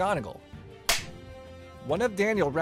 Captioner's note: flip clapper sound